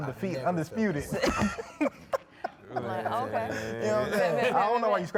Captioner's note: people laughing